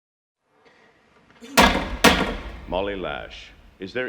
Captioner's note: banging